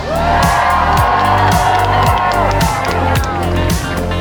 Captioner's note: cheering